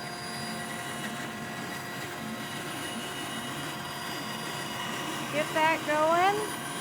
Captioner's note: sawing